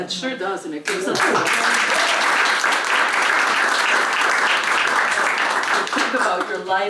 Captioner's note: applause